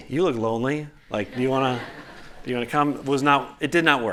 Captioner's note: laughter